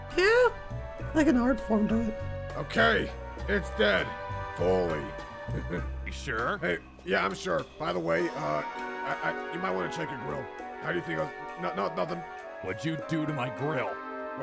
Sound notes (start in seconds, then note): 5.5 chuckle; 11.2 suttering